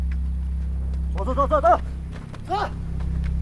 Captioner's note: Chinese language